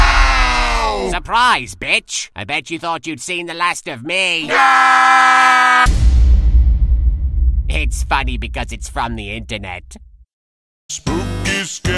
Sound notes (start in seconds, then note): none